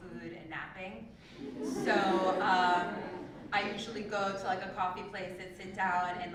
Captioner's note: laugh